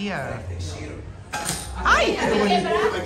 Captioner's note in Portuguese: objeto caindo